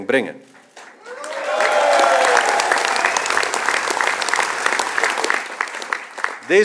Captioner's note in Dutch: applaus